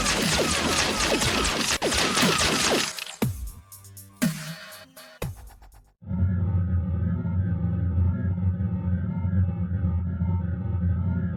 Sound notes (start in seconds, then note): 6.1 spacecraft rumbling